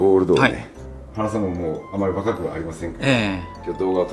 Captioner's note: laughs